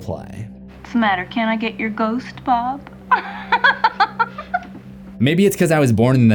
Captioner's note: laughs